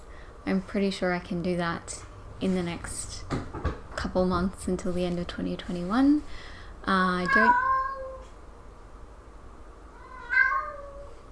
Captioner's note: cat meows very loudly